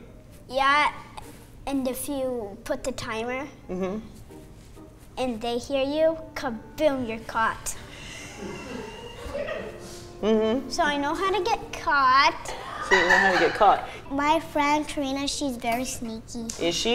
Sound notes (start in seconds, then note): 12.6 offscreen laughing